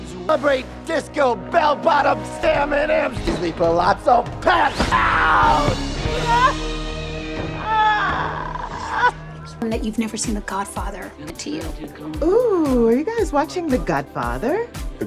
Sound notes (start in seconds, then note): 6.0 Margot Robbie crying